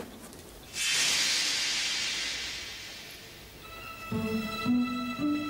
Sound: magical shimmering

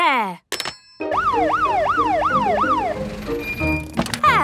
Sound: siren sounding

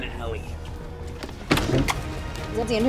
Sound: door closing

